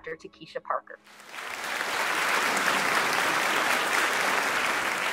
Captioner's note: audience clapping